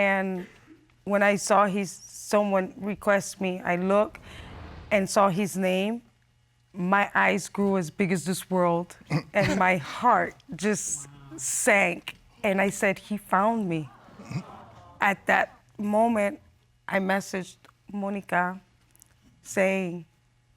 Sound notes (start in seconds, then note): 9.1 chuckles